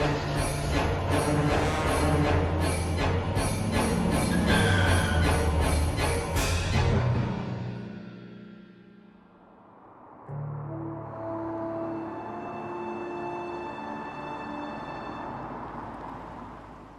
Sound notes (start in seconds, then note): 0.4 dramatic music continues; 4.8 tires screeching; 10.1 gentle music